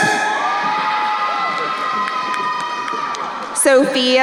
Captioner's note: crowd cheering